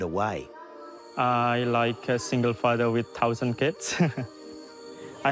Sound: laughs

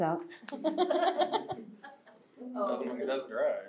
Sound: laughter

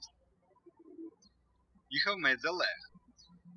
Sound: birds chirping

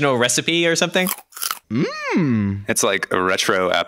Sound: munching

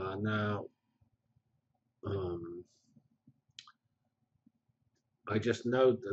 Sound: pause

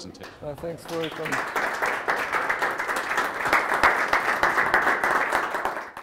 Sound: audience applauds

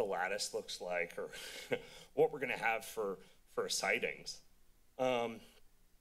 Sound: chuckles

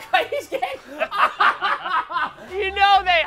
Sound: laughing

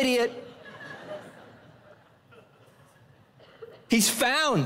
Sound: congregation laughing

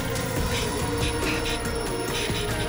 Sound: alarm ringing

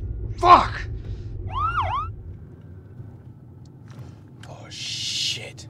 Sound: siren wails

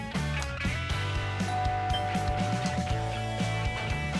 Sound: doorbell rings

